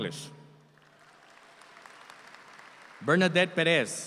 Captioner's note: audience applauds